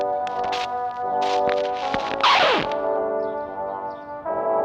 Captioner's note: record scratching